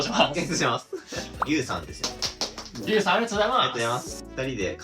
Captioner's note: applause!